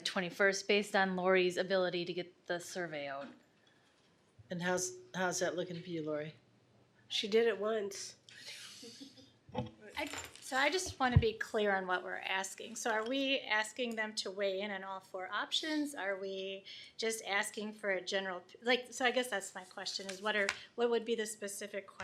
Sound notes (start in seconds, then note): 9.1 laughs